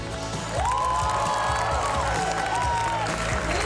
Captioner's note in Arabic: هتاف